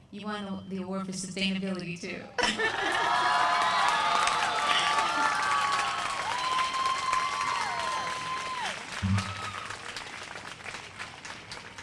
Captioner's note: applause